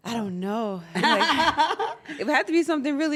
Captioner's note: laugh